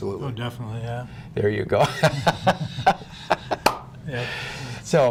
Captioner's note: laughter